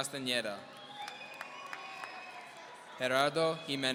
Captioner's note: audience cheering